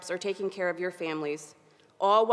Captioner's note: none